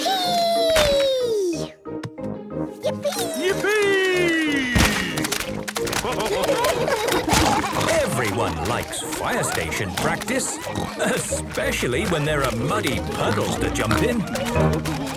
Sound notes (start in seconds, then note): 6.6 splashing